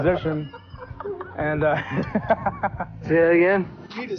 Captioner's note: crew laughing